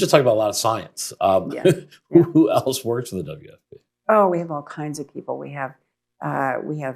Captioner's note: laughs